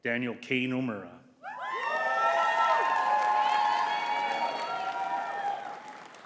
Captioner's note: audience cheering and clapping